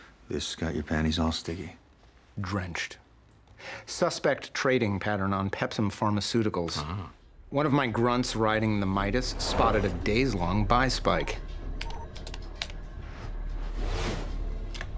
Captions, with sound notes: - This got your panties all sticky? - Drenched. Suspect trading pattern on Pepsum Pharmaceuticals. - Ah. One of my grunts riding the Midas spotted a days-long buy spike. (keys tapping)